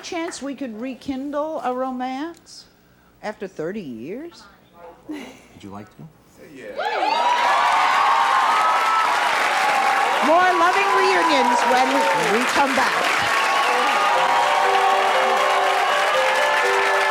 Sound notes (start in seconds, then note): 8.8 cheering; 13.6 light music